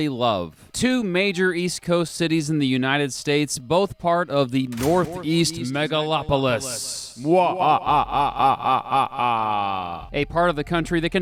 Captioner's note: mwhahahahahaha